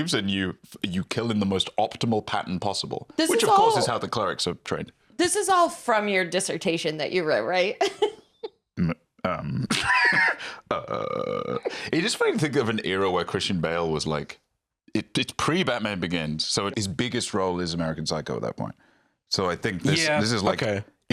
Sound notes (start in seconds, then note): 9.3 laughs